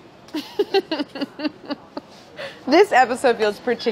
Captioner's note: laughing